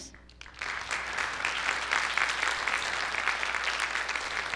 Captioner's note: audience applauding